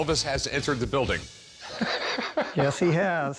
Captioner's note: laughs